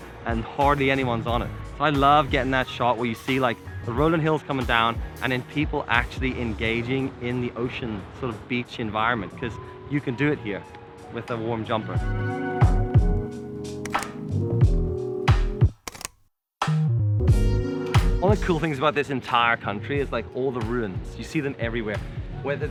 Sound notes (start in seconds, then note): 12.0 upbeat music; 13.9 camera clicking